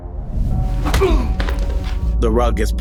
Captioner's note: oz groans